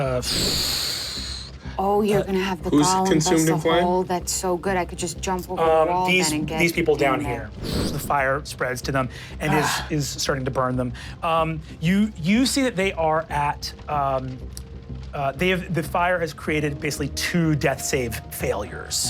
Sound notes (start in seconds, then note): 0.2 imitates explosion; 7.3 imitates explosion; 10.8 fire crackling